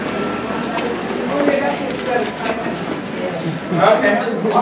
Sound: people chatting

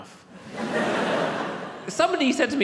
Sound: audience laughs

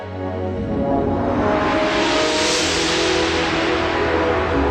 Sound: analog synthesizer music plays; synthesized whooshing sound

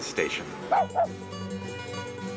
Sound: dog barks

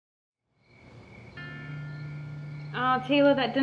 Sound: crickets chirping

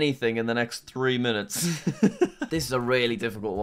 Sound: laughs

